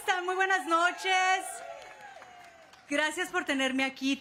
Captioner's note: cheers and applause